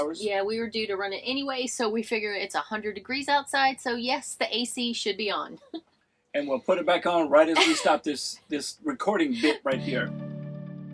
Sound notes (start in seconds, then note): 7.5 laughing